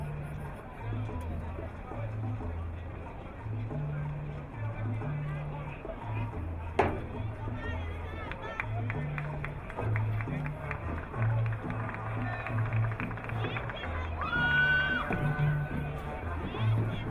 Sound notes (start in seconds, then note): 13.4 crowd clapping